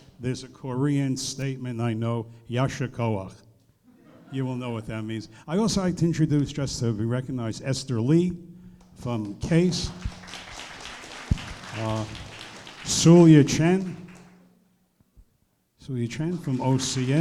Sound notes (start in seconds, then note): 2.2 speaking in foreign language; 8.8 applause